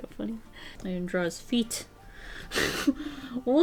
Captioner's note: laughs